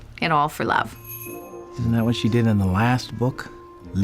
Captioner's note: doorbell jingles